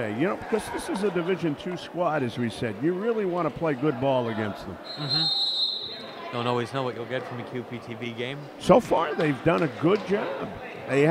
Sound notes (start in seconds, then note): 4.8 whistle blows